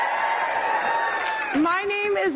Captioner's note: cheers